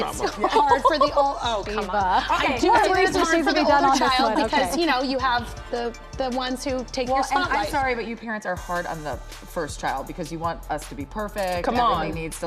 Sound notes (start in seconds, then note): 2.2 laughter